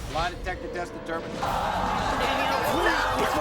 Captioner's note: audience gasping